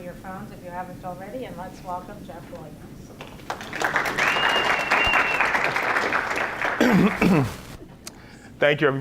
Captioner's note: congregation claps